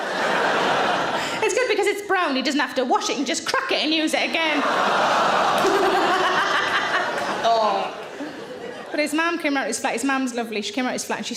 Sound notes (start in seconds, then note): 0.0 audience laughing; 4.4 audience laughing; 5.6 Sarah laughing